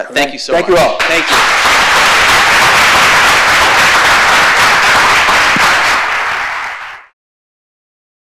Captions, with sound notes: Thank you so much. - Thank you all. - Thank you. (audience applauds)